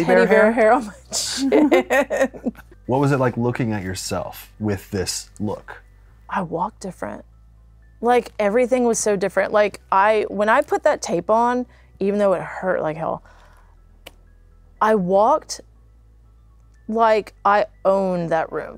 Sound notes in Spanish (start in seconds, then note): 1.3 ríe